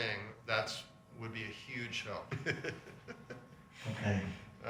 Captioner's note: chuckles